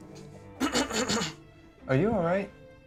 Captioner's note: clears throat